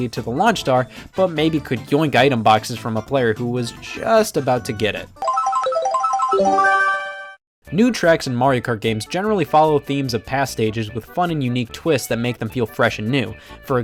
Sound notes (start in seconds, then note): 5.2 Mario Kart item roulette sounds